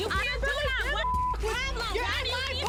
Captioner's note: girls screaming at each other